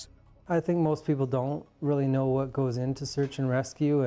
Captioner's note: voiceover